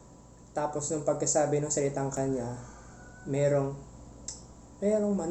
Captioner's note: angry cock screaming murder